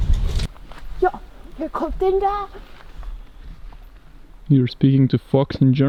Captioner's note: speaking German